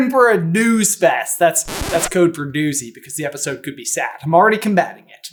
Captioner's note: record scratch